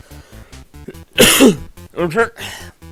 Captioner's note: cough